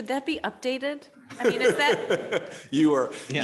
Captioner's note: man laughing